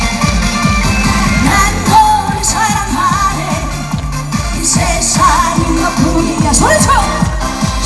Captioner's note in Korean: 소리쳐